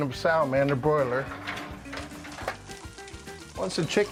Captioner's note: sizzling